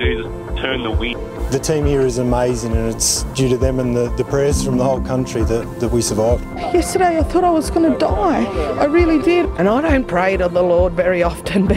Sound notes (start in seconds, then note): 3.8 laughs